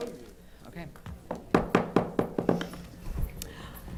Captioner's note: gavel banging